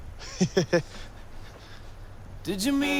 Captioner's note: chuckles